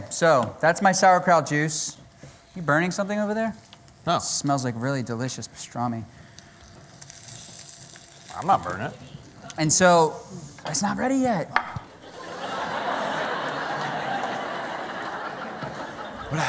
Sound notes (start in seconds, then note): 11.9 laughter